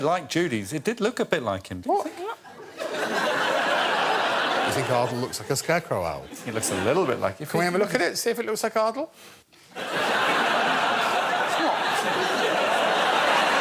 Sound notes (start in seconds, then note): 2.4 laughter; 9.7 laughter